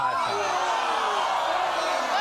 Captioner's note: audience groans